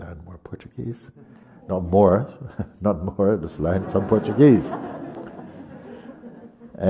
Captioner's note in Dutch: gelach